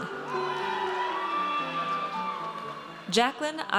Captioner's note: audience cheers